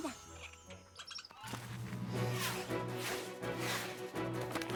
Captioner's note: chittering